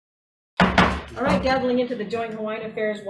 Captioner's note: gavel banging